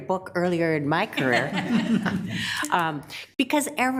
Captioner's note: people laughing